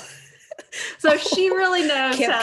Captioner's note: laughing